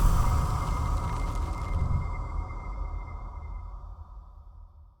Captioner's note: fire crackling